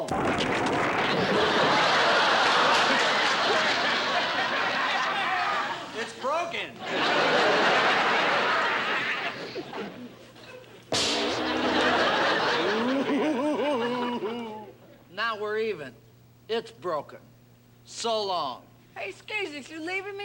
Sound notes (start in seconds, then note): 1.0 laughter; 11.2 chuckles